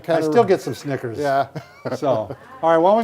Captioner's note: laughs